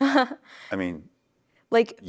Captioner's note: laughs